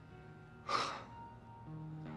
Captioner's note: sighs